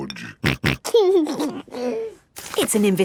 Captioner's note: snorting and giggling